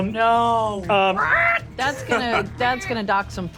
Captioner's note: squawks indignantly